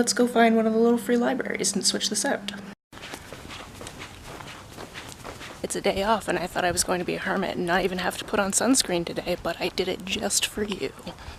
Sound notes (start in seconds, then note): 2.9 stepping and nature sounds